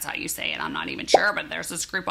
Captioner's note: bubble popping